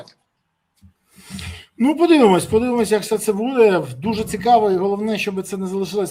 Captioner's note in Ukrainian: сопіння